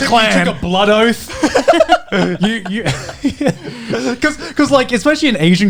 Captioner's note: all laughing